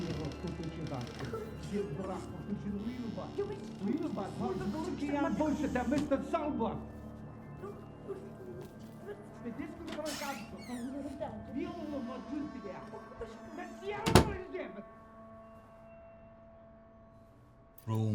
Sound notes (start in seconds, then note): 0.2 arguing in unknown foreign language; 9.8 door creaks